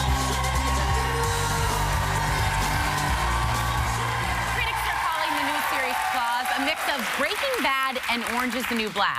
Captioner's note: cheers and applause